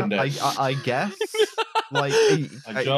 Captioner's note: laughs